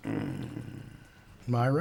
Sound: groaning

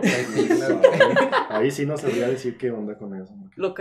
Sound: laughter

